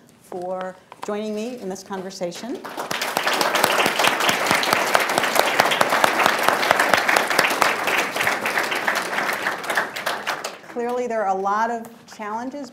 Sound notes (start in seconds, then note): 2.5 applause